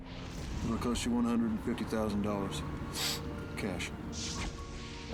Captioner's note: sniffs